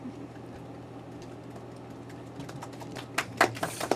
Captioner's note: applause